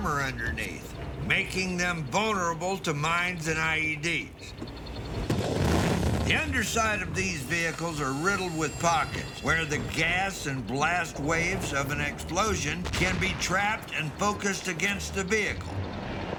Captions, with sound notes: underneath, making them vulnerable to mines and IEDs. [EXPLOSION] The underside of these vehicles are riddled with pockets, where the gas and blast waves of an explosion can be trapped and focused against the vehicle.